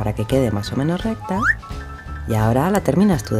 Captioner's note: comic whistle